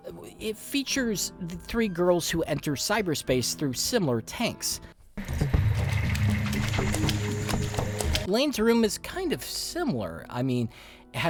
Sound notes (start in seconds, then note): 5.2 footstep splashing